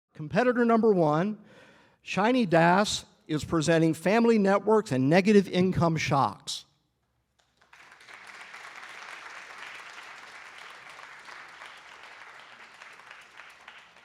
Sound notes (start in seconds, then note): 7.3 applause